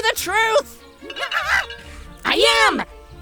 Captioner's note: screaming